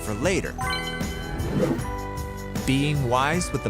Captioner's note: dinging; whooshing